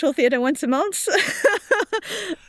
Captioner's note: laughs